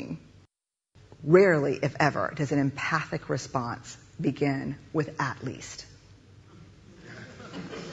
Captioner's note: laughter